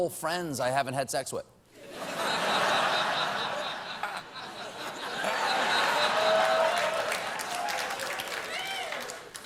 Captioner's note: applause; laughter